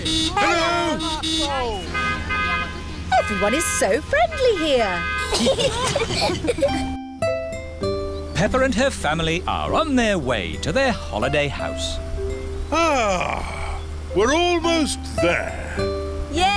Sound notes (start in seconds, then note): 0.0 honking; 0.0 italians honk back; 5.2 all giggling